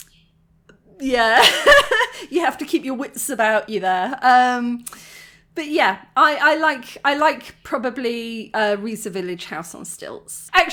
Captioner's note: laughing